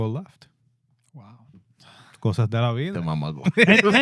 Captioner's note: speaking In Foreign Language